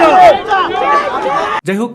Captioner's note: chanting